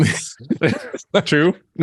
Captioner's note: both laugh